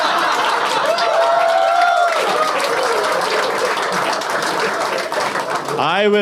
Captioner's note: the sheer suddenness of the applause!